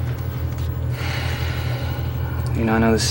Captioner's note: sighs